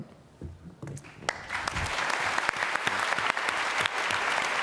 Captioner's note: applause